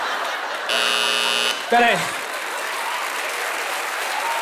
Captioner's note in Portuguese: campainha